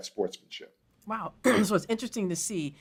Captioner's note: cough